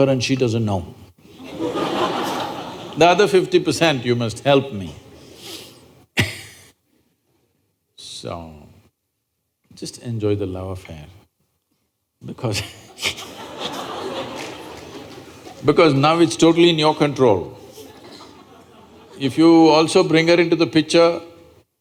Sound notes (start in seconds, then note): 1.3 laughter; 5.9 laughs; 12.6 laughter